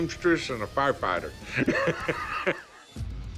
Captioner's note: chuckling